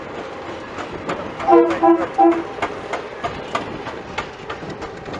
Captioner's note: diesel horn blowing